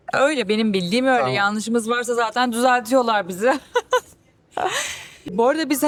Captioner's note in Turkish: kahkaha